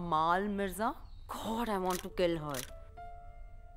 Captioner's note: Clicks